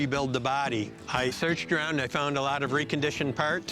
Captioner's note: none